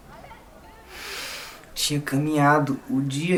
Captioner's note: deep breath